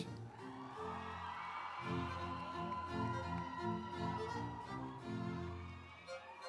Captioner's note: instrumental music; audience cheering